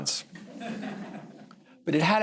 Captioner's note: laughter